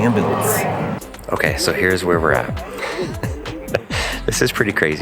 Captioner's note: laughs